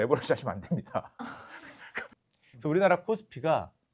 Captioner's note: laughter